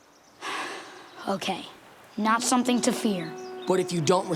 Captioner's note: sighing